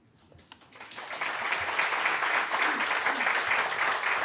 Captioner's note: audience clapping